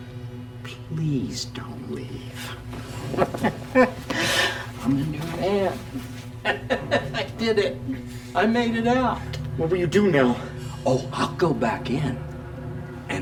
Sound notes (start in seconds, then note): 3.0 laughs